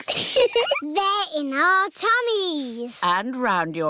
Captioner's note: giggles